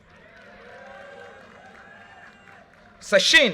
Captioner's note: audience cheers and applause